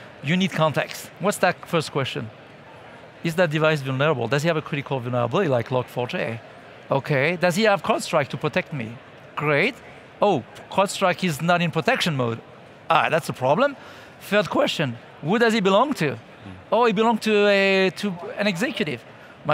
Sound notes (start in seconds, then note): none